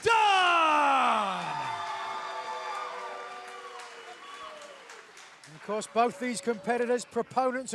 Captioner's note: crowd cheering